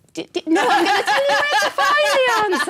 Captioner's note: laughter